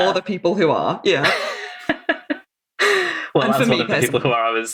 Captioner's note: laughing